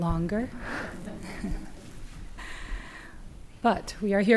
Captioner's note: audience chuckles